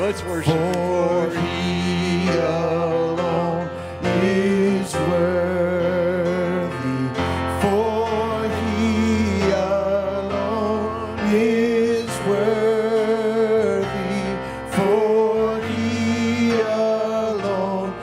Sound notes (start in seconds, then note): none